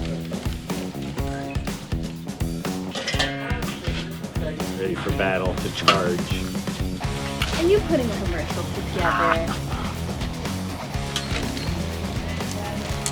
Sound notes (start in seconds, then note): 9.8 laughs